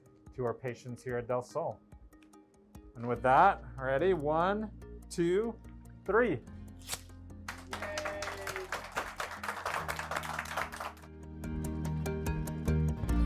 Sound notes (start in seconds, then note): 6.8 scissors scraping; 7.4 staff applauding